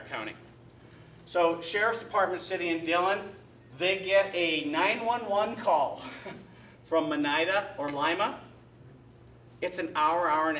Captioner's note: chuckle